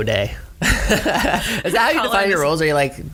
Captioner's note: laughs